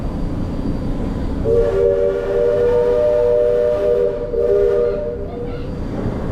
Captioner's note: steam whistles